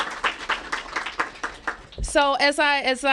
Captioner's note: applause